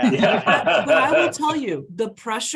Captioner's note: panelists laughing